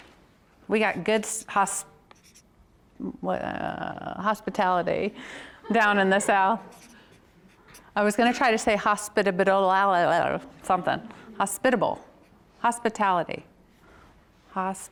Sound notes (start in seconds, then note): 5.6 audience laughs